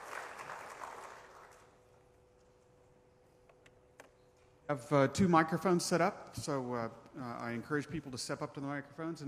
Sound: applause

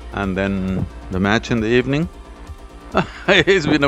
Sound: laughs

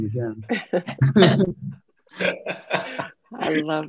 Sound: panelists laughing

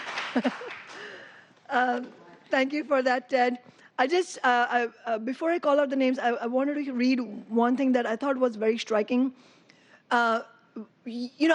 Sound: applause

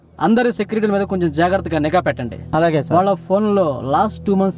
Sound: none

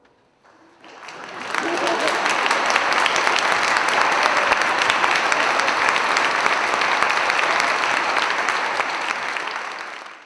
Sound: applause

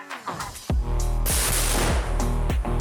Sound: dynamic music plays; sound of a grenade launcher; dynamic music plays

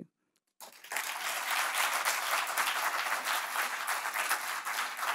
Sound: audience applauding

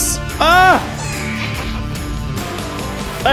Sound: vex screeches

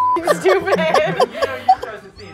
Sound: beep; laughs

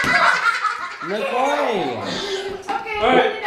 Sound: kids laughing hysterically

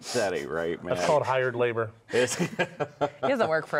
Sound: laughs

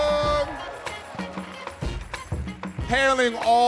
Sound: audience cheering

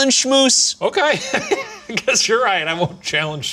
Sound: laughing

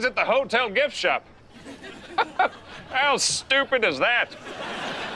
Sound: chuckles

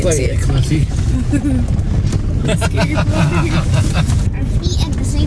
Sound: group laughing

